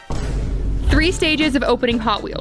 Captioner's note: air rumbles